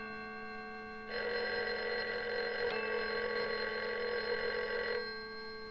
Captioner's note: clock chime; telephone ring